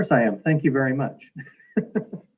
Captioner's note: laughing